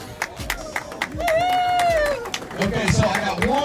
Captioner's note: crowd clapping